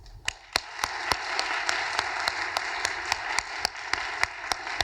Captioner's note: audience applauding